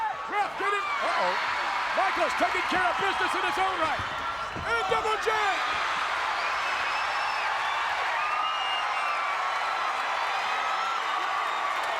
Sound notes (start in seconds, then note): 1.3 audience cheering; 5.9 audience cheering and clapping